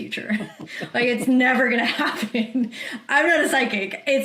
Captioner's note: chuckles